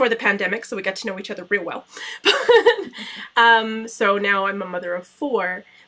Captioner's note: laughter